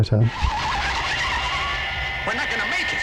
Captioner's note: tyres squealing